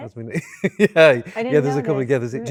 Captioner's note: laughs